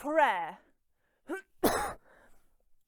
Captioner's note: coughs